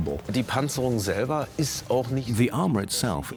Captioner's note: speaks German